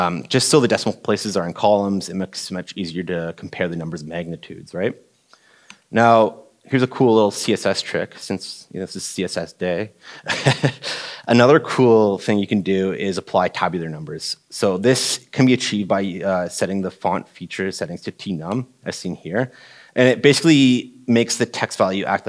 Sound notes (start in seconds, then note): 10.2 laughing